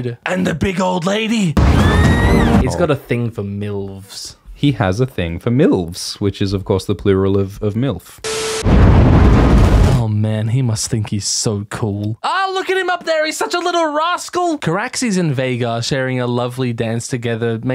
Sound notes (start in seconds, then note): 1.6 adorable squeal; 4.3 Alt Schwift X voice